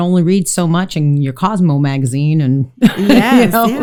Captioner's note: laughs